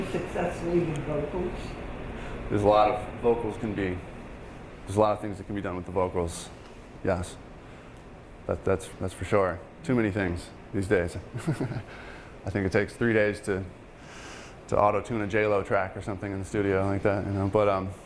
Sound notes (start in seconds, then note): 11.3 laughing